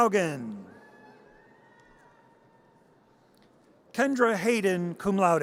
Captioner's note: audience cheers